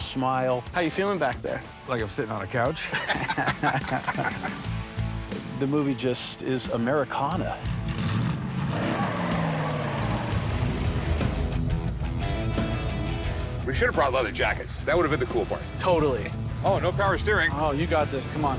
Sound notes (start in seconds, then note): 2.8 both laugh; 7.4 engine rumbling; 7.5 engine revs